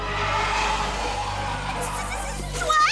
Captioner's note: roaring